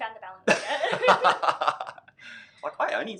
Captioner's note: laughing